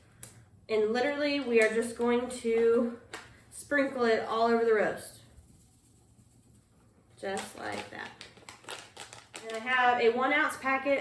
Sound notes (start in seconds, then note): 7.2 package ruffles